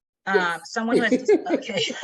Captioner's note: both laughing